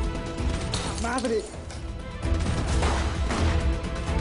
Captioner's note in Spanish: Disparos